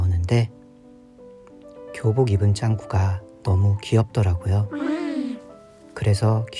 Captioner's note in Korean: 감탄하는 소리